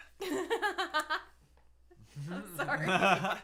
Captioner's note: laughing